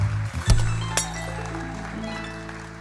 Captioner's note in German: Zerbrechendes Glas